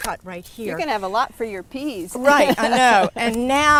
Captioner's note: laughter